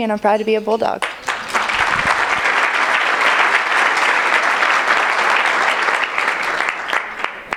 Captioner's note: applause